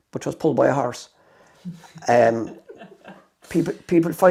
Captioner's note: laughter